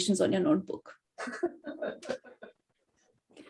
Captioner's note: audience laughs